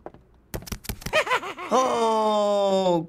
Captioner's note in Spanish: Ruido corriendo, cacareando risas